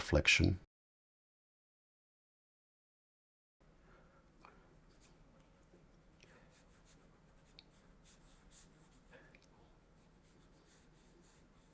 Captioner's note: silence